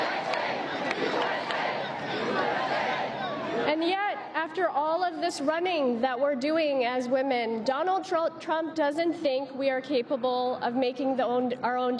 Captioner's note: applause